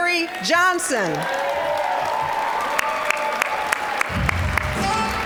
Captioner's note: cheering, applause; applause; smooth jazz music